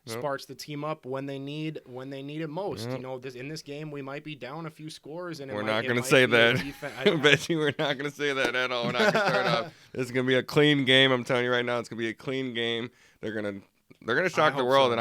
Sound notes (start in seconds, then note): 8.8 laughs